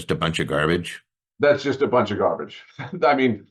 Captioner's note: chuckling